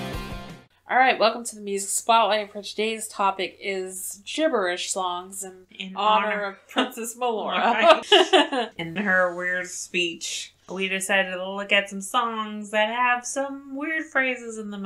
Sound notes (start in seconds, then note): 0.0 transition music plays; 7.4 laughs